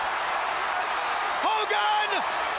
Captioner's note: crowd cheering